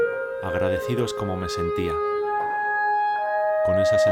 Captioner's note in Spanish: Voz en off